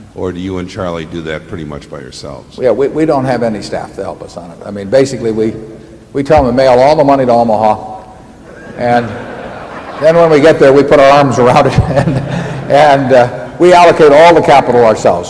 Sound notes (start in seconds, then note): 8.4 laughter; 11.3 laughs